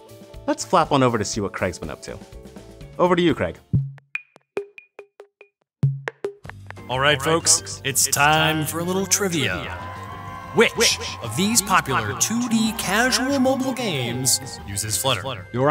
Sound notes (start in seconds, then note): 3.9 musical pops; 9.5 cheering